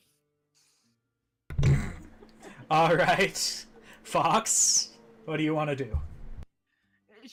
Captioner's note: snorts